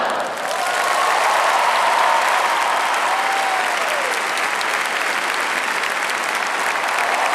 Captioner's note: cheering